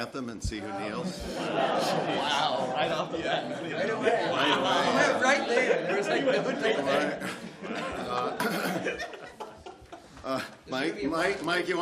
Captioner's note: laughter